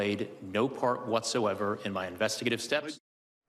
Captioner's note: HABLA EN INGLéS